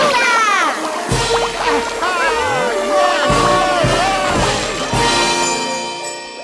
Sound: cheering

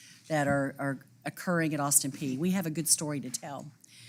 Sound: none

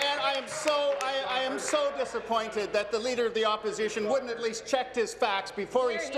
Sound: applause

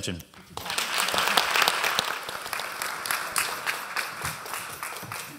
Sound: applause

